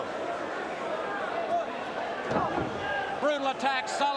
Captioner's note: crowd chatter